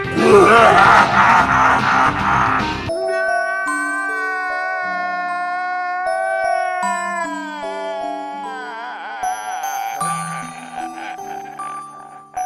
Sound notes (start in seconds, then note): 0.1 evil laughter; 2.9 crying